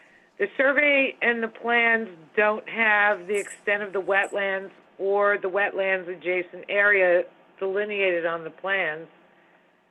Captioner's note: phone